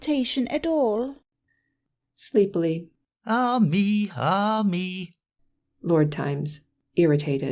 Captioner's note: sleepily